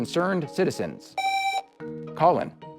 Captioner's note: buzzer